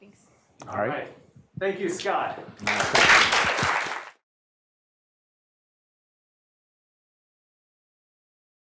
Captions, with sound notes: Thanks. Thank you, Scott. [APPLAUSE]